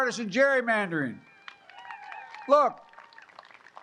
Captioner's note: applause